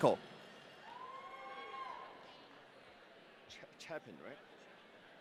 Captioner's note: audience cheering